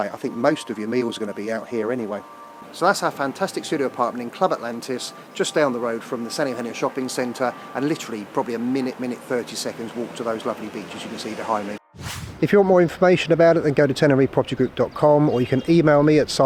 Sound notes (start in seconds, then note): 11.9 rocket launch